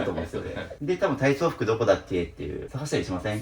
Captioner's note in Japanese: 笑い